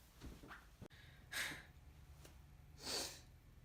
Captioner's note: sighs dramatically